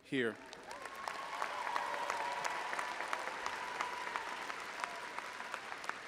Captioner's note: audience applauding and cheering